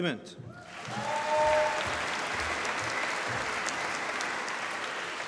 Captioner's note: applause